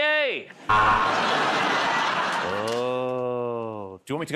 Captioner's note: buzzer